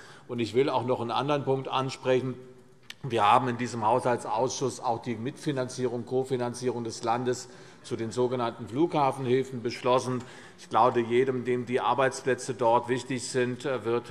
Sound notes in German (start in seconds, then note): none